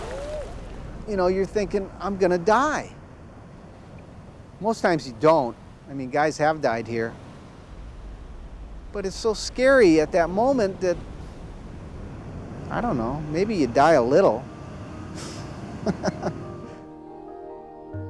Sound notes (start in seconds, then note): 15.6 chuckles